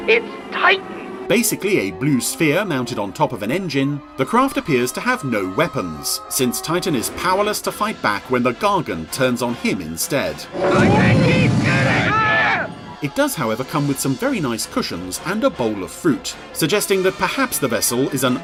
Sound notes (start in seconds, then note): 11.0 both yelling